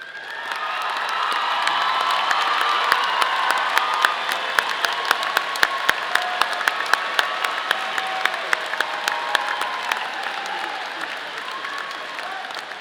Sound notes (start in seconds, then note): 1.1 audience applauding; 1.1 audience cheering